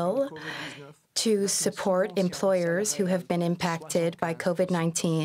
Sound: speaking French

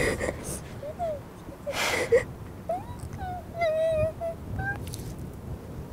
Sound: whimpering

